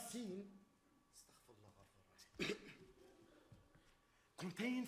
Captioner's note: coughs